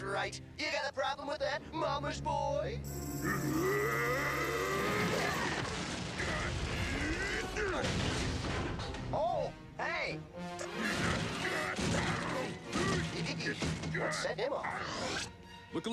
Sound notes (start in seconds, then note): 3.5 roaring